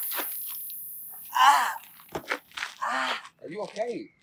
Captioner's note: moans